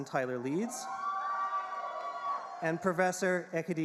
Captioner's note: audience cheering